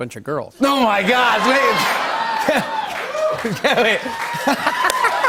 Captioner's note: laughter; cheers and applause